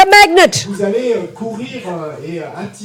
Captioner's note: audience member speaks in French